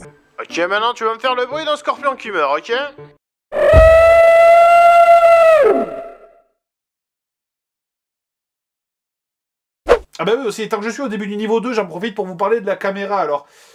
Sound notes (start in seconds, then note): 3.5 "scorpion" screams